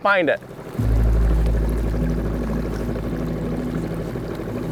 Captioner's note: motor trolling